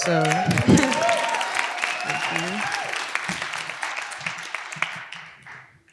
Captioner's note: applause